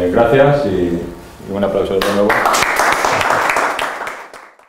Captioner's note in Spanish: aplausos